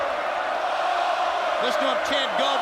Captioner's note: crowd chants